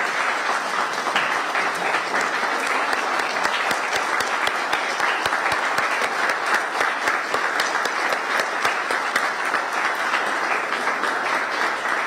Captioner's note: applause